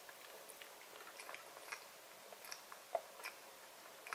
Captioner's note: stomach rumbling, midnight hours..!